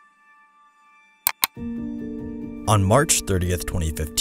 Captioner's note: mouse clicks